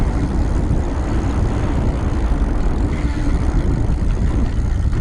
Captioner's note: bicycle hub creaks